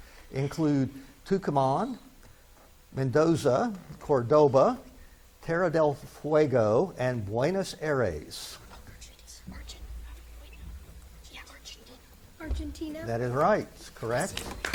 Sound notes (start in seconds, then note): 8.8 students whisper; 14.5 spectators clap